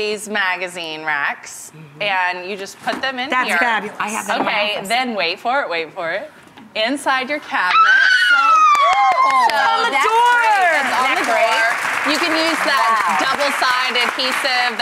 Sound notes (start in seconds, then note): 7.7 Rachael screaming and clapping; 8.6 applause